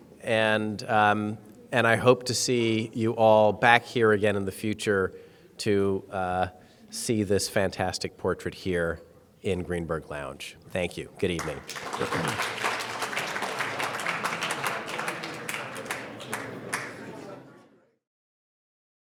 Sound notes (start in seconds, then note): 11.3 audience applauding